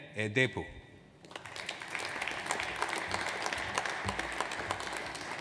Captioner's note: audience applauds